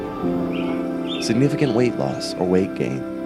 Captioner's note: birds chirping